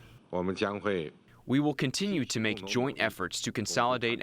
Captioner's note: through translator